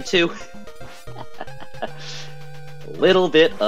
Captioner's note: laughs concerningly